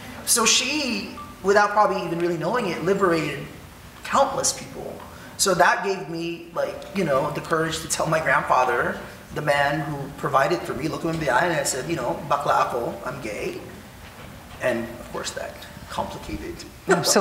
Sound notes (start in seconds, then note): 12.1 speaking in foreign language